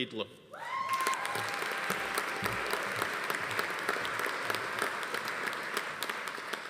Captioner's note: attendee cheering; audience applauding